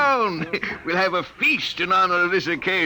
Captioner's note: chuckles